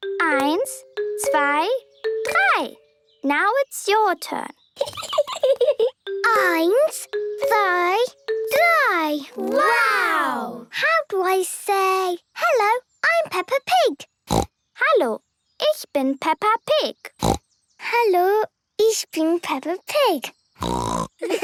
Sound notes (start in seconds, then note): 4.8 Peppa giggling; 14.3 snorting; 17.2 snorting; 20.6 snorting; 21.2 laughter